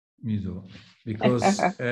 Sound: laughing

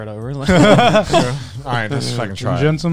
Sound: laughing

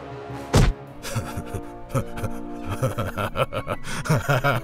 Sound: Batman laughs

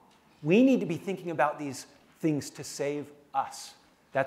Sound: none

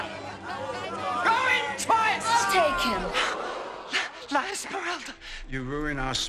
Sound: gasping

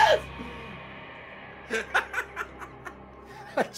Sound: laughs

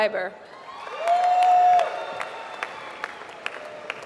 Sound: applause

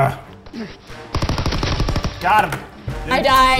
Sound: automatic weapon fires

